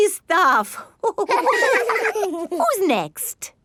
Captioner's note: all laughing